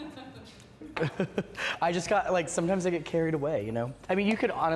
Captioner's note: laughs